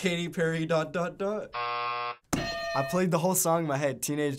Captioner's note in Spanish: buzzer